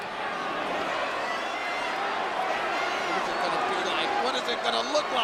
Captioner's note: audience shouting